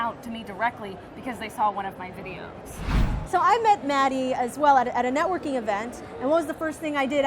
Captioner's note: whoosh